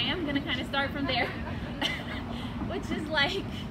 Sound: and audience laughs

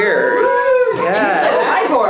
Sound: cheering

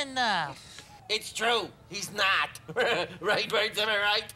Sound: laughs

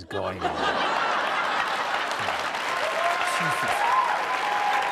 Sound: audience laughing; applause

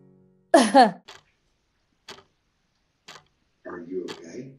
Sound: clock ticking

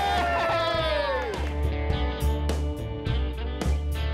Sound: cheering

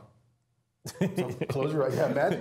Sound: laugh

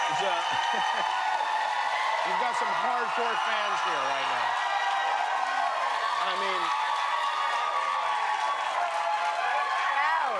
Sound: cheers and applause

